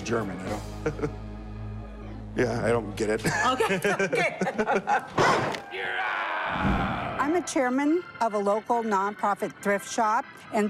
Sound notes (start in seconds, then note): 0.3 laughs; 4.9 bang; 4.9 laughs